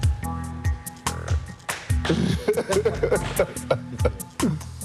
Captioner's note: laughter